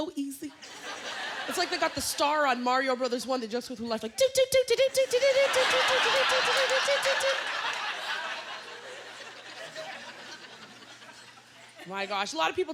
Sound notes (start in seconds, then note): 5.0 laughter